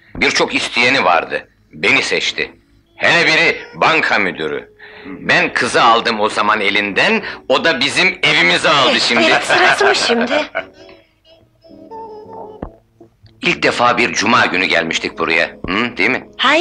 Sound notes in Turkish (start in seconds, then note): 8.9 Kahkahalar